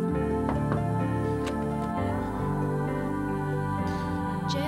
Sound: knocking at door

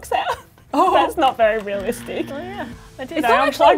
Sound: laughs

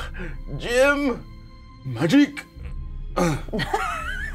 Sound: grunts; co-hosts laughing

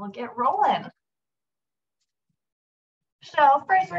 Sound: silence

